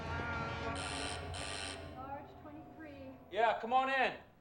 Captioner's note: doorbell buzzing